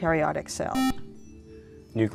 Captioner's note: buzzer